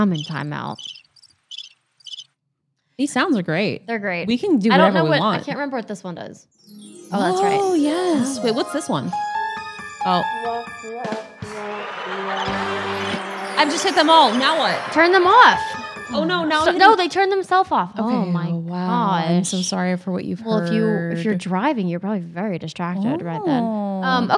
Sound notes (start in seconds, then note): 0.7 crickets chirping; 6.6 chimes ringing; 8.0 suspenseful music; 10.4 trombone playing; 11.3 drum playing; 11.4 crowd laughing; 12.9 chimes ringing; 15.7 suspenseful music